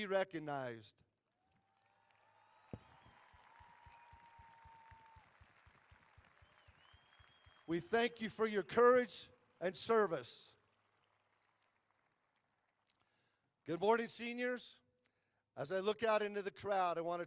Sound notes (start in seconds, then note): 5.0 applause